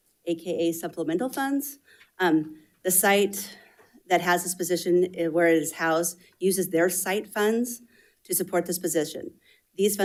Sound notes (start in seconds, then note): none